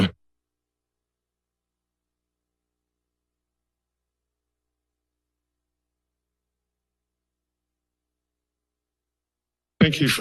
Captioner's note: silence